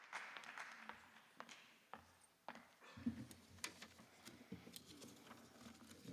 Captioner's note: applause